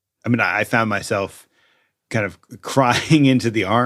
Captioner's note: laughs